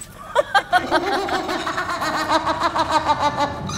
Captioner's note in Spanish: Risa malvada